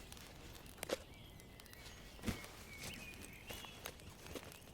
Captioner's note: birds chirping